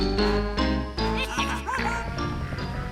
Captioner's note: chuckling